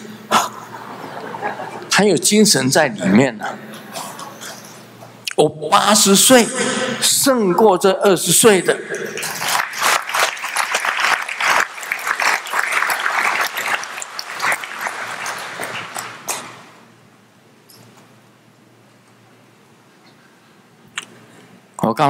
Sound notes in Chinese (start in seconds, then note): 13.5 眾鼓掌